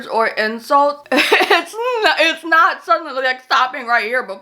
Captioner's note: laughs